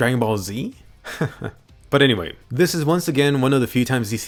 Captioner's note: laughs